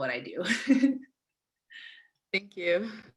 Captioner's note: giggling